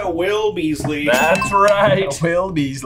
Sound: bell ringing

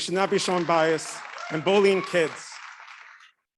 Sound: audience clapping

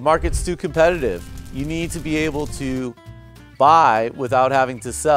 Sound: fire sizzling

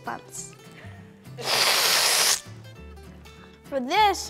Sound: sucks teeth

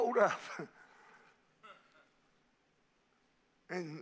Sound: congregation laughing

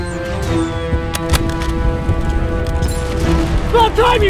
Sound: guns click

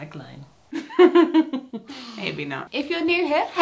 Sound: laughing

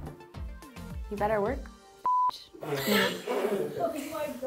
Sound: beep

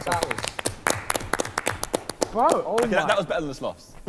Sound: clapping

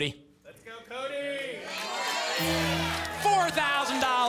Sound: cheering

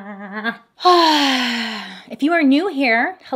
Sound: exhales

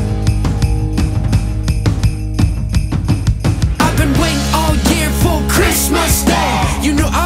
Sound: sleigh bells; soft rock music

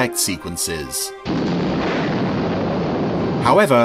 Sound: eruption blasting

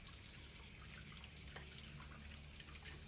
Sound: tap running

